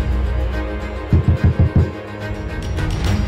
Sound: knocking softly

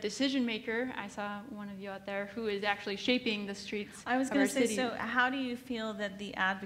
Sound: none

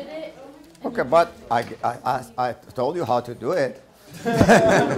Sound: laughter

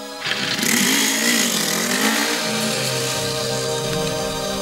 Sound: squeaking; engine noise

